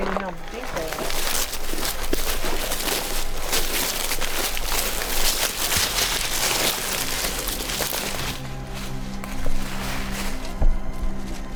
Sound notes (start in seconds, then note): 4.1 leaves crunching